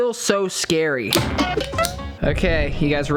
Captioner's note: metal clanging